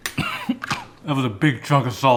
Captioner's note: coughs